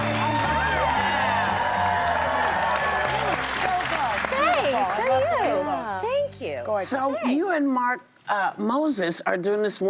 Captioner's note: applause; cheers and applause